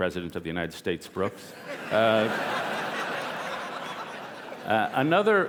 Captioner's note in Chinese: 笑聲